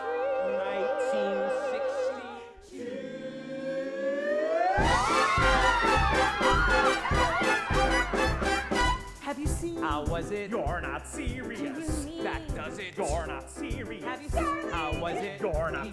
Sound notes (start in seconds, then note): 4.2 whooping excited chatter; 6.7 lively music playing